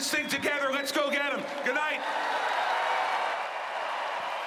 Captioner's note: cheering and applause